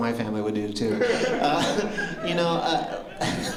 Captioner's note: laughter